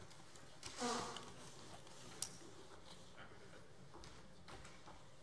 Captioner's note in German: none